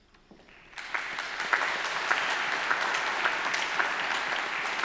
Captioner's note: audience applauds